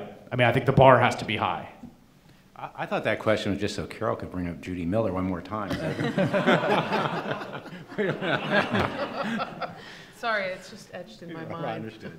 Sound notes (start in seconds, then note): 5.7 laughing